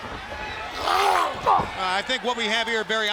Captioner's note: giant grunts